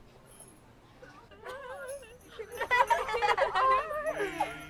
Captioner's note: bells rattling